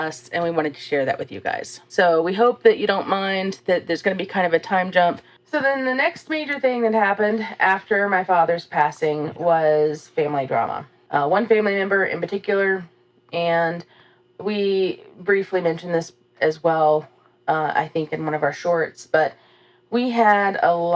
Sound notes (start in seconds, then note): none